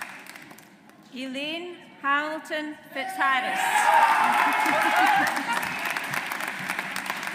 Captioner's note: audience applauds